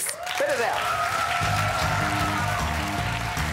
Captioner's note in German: Jubel und Applaus